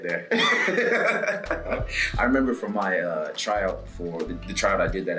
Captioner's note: laugh